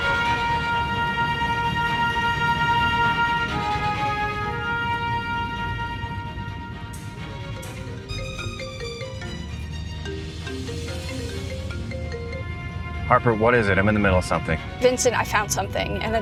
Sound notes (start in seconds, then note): 2.8 dramatic tense music continues; 8.0 phone rings